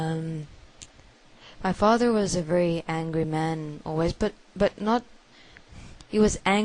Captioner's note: sigh